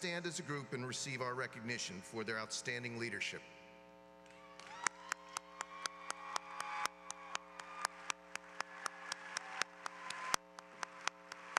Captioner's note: applause